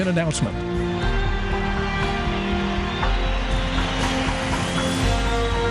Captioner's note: cheering